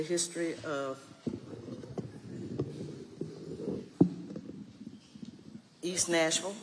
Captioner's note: microphone creaking